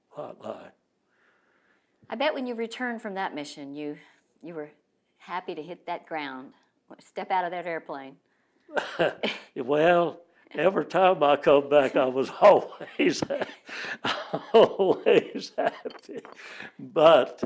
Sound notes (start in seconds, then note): 8.7 laughs